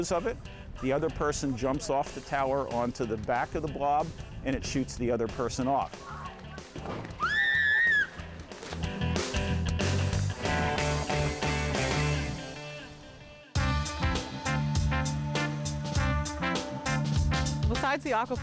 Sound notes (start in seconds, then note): 7.1 scream; 13.1 jazzy music